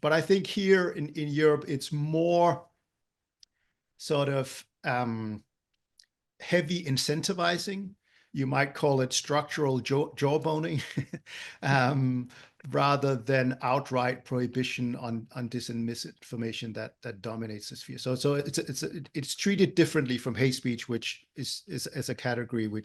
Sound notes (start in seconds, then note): 9.7 laugh